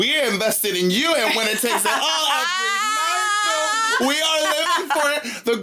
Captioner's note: yelling